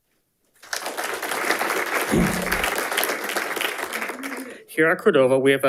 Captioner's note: audience applauding